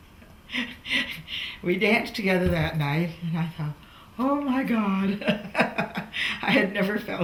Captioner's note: laughs